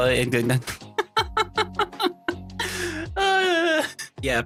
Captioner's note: laughing